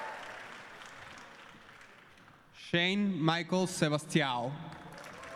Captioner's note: applause